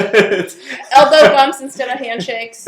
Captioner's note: everyone laughing